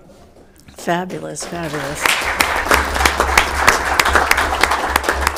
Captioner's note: all applauding